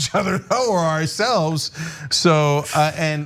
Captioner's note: laugh